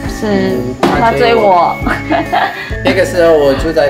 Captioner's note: laughter